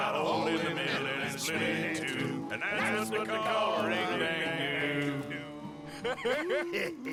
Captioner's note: laughs